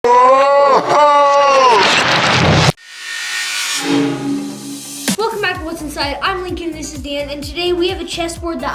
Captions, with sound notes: (dramatic yelling) - Welcome back to What's Inside, I'm Lincoln, and this is Dan, and today we have a chessboard